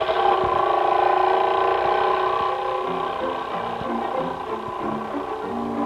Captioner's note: whirring